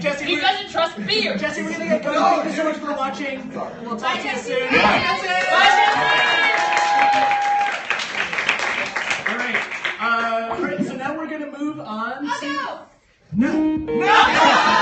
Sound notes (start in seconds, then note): 7.3 crowd cheers; 13.5 Incoming Skype call sounds